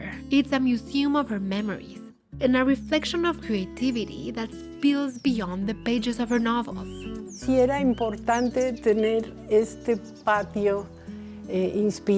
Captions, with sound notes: It's a museum of her memories and a reflection of creativity that spills beyond the pages of her novels. - [Speaking Spanish]